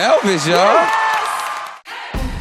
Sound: cheers, applause

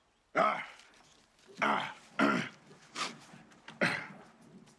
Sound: continues mumbling; clears throat

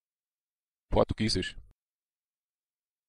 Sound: fast Pronunciation

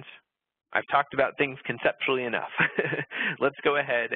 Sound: laughs

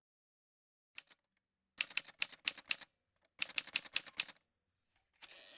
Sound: typewriter sounds

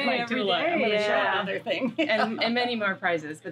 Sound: laughs

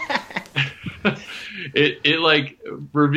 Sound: laughter

